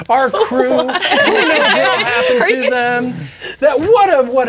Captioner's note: players laughing